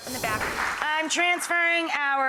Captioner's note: audience applauds